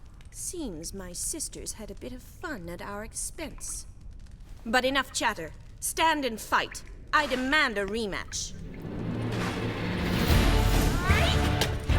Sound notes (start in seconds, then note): 4.5 normal voice; 11.1 both grunting, groaning